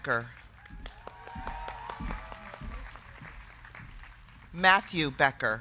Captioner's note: crowd clapping; crowd cheering